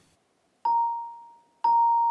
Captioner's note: bright sounds